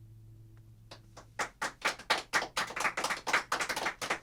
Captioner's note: applause